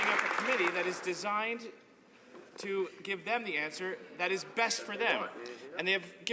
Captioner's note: some Applause